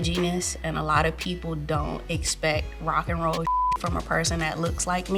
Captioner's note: beep